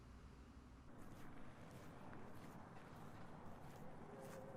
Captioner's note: footsteps crunching